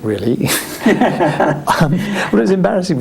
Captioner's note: laughs